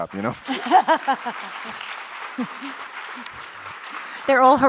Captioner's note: audience applauds